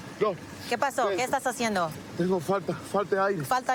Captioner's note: speaking spanish